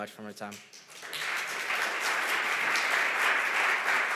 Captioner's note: audience applause